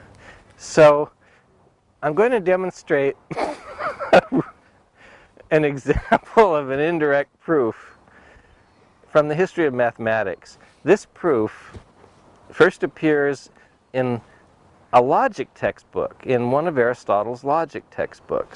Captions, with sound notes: So...I'm going to demonstrate... [laughing] An example of an indirect proof from the history of mathematics. This proof first appears in a logic textbook-- in one of Aristotle's logic textbooks.